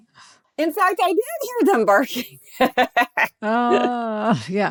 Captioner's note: laughs